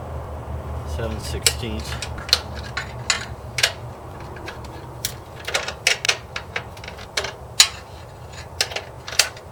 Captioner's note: metallic wrench noises